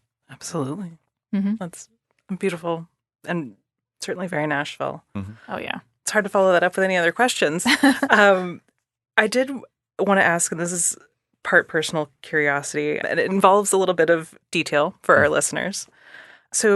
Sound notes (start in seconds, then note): 7.6 laughing